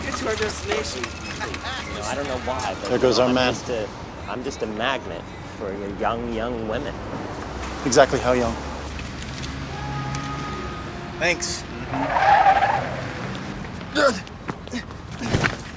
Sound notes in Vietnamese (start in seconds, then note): 8.2 tiếng đề máy ô tô; 11.4 tiếng lốp xe rít lên